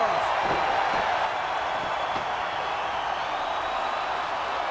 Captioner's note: crowd cheering